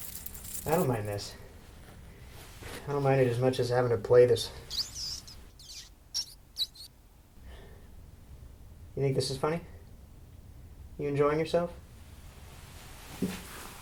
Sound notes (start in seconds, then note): 4.5 rat squeaks